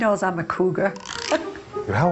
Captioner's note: laughing